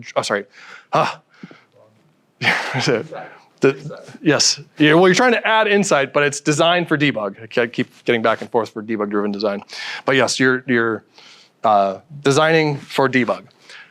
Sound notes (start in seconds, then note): 2.4 chuckles